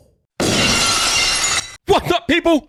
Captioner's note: glass breaking